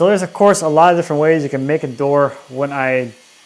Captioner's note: electric saw whirring